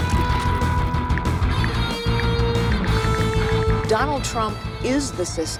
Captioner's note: ticking